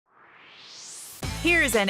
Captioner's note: swoosh